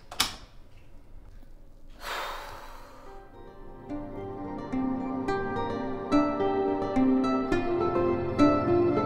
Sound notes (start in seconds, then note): 2.0 Jude sighs; 5.7 light music